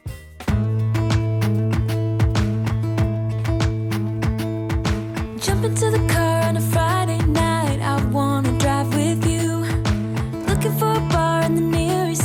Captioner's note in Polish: Aplauz